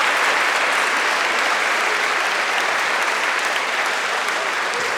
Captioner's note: audience continues applauding